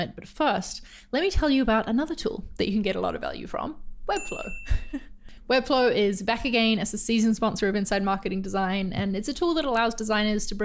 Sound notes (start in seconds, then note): 5.1 laughs